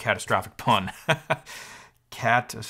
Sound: laughing

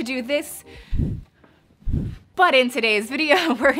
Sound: whooshing

